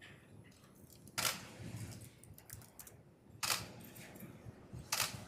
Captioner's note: camera clicking